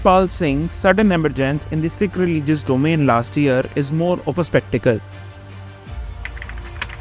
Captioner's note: typing